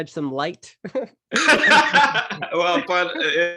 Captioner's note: presenters laughing